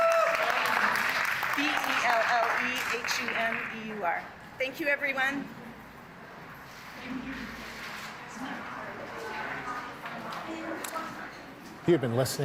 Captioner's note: cheers and applause